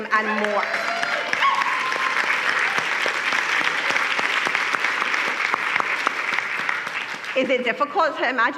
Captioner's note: applause